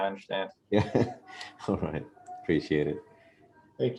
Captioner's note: laugh